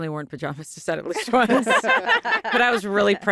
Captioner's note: laughter